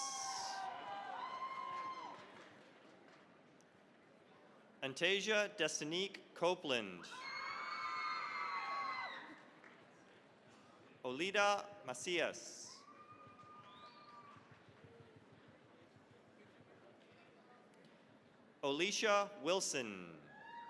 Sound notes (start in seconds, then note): 0.0 cheering, applause; 7.1 cheering, applause; 12.8 applause